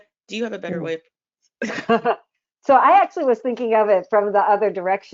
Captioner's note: laughs